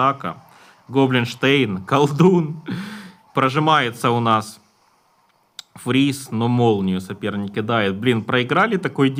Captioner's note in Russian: тяжело вздыхает